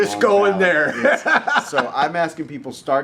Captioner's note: laughing